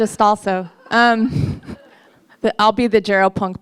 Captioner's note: soft laughter